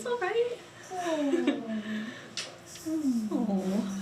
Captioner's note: cooing